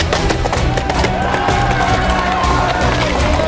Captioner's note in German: Schreie